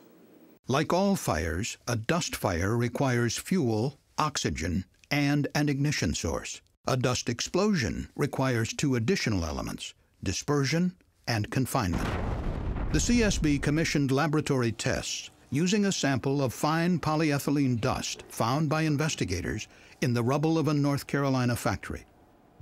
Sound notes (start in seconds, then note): 11.9 sound of explosion